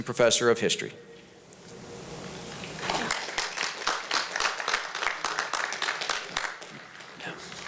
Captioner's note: applause